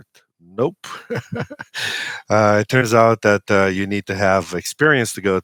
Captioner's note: laughs